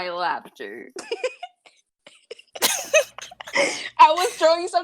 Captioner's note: laughter